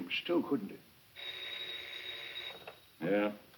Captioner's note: phone ringing